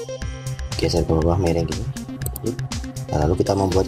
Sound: click

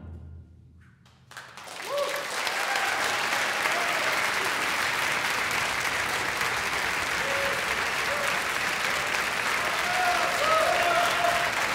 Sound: crowd applause

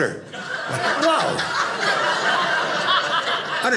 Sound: audience laughing

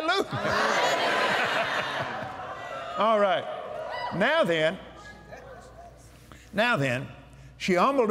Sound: cheers

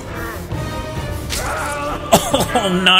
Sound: Poseidon Screams

